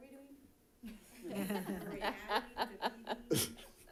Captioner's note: all laughing